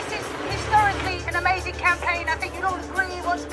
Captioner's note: loudspeaker